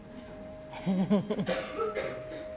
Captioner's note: laughter